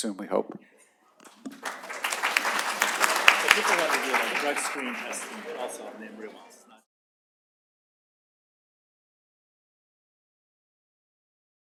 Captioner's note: applause